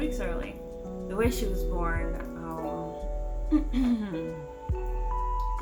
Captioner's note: clears throat